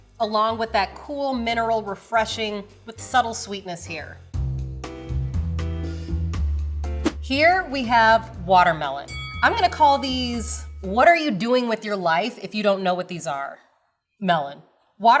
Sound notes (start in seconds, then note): 4.7 upbeat music; 9.1 bell dings